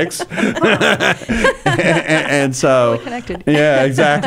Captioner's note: laughing